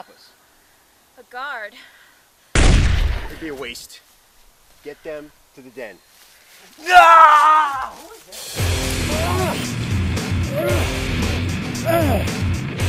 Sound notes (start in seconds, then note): 9.0 battle cry